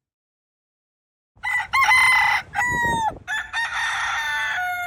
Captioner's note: rooster crows